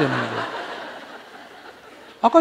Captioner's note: audience Laughter